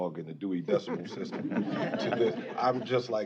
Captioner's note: laughter